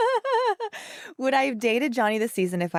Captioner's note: laughs